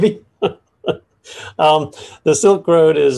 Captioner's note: laughs